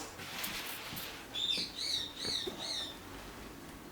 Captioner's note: bird squawking